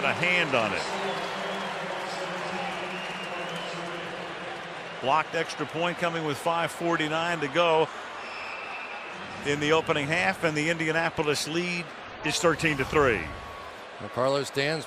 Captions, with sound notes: who got a hand on it. [pa announcement] Blocked extra point coming with 5:49 to go in the opening half. And the Indianapolis lead is 13 to 3.